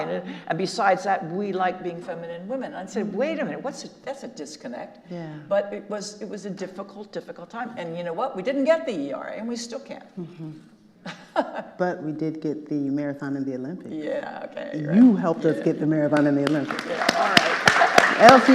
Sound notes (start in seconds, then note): 11.0 Kathrine laughs; 16.0 audience applauding